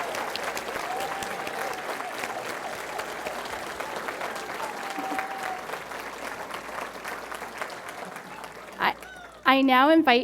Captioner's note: cheering & Applause